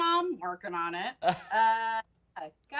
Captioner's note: laughs